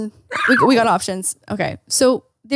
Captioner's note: duck quacking